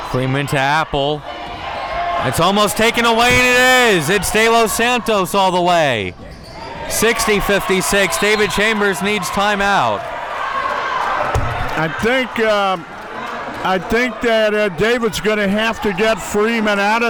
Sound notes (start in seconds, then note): 6.9 audience cheering